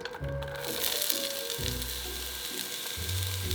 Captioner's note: sizzling